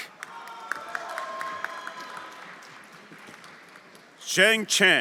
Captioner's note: everyone applauding and cheering